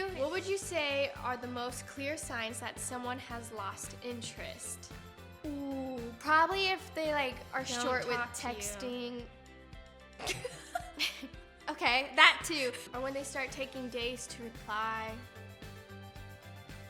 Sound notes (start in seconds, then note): 10.2 laughing